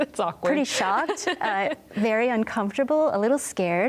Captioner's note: laughs